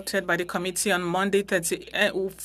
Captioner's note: speaking French